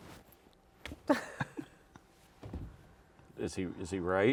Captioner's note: chuckles